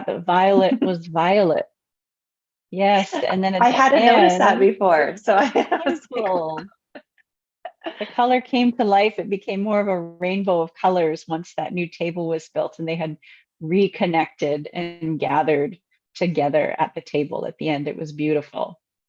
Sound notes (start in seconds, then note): 0.5 giggles; 5.6 laughs